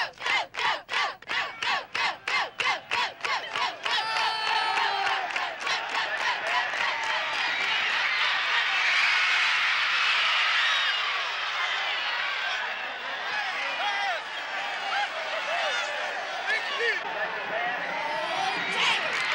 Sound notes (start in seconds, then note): 0.1 group cheers; 6.4 crowd screams